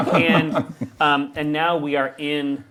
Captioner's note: group laughs